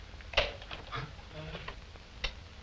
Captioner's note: gasps